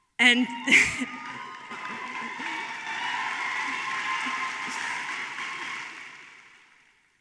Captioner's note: cheering